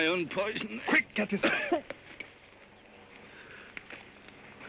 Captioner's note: wounded man coughs